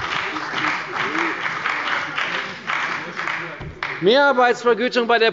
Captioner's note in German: Beifall bei der CDU und dem BÜNDNIS 90/DIE GRÜNEN